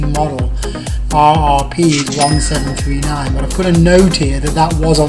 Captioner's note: dings